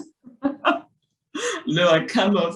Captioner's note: Chimamanda laughs